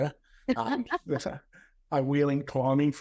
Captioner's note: both laughs